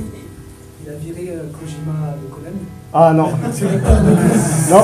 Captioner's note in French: rires